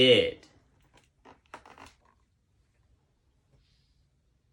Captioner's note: book squeaking